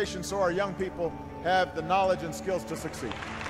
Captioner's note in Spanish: Aplauso